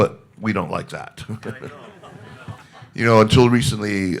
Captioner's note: everybody laughing